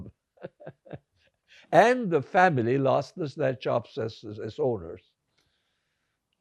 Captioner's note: laughing